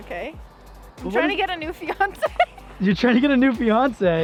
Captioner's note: laughs